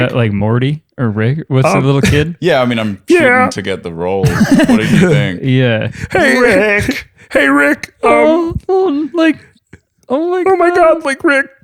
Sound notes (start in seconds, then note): 4.2 laughter; 7.5 imitating Morty